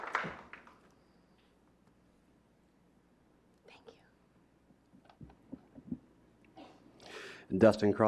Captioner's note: clapping